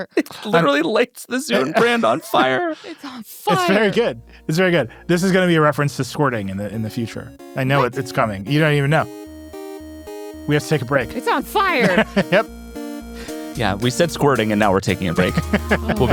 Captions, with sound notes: - It literally lights the Zune brand on fire. - It's on fire. - It's very good. It's very good. This is gonna be a reference to squirting in the future. I know it, it's coming. You don't even know. We have to take a break. - It's on fire. - (laughs) Yep. - Yeah, we said squirting, and now we're taking a break.